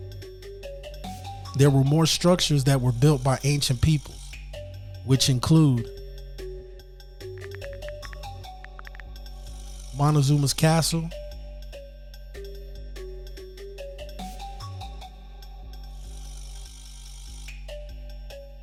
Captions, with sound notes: There were more structures that were built by ancient people, which include (keyboard typing) Montezuma's Castle, (mysterious music continues)